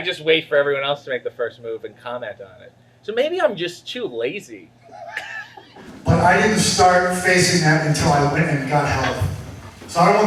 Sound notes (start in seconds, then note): 4.8 laughs